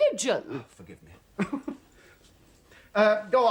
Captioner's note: chuckles